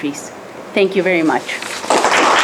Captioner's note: audience applause